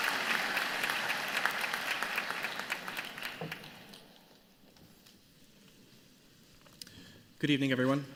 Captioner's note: applause